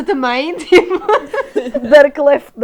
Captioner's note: laughs